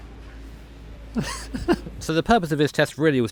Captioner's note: giggling